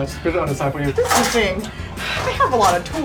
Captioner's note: sigh